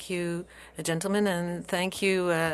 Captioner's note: speaking French